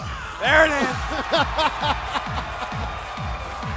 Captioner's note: laughter; cheers and applause